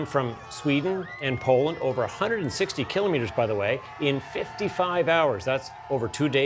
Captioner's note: applause